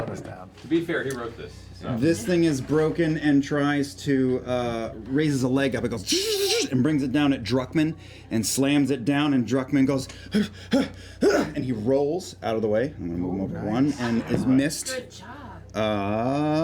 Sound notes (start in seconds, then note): 5.7 whirring sounds; 10.3 effort sounds